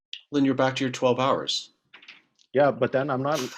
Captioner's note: chuckles